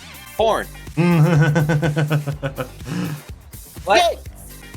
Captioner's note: chuckles